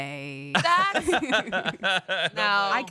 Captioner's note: laughs